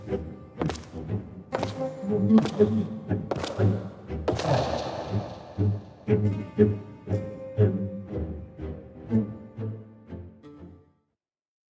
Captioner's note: gunshots